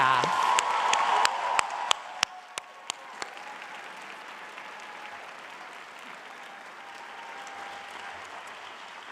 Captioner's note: audience applauds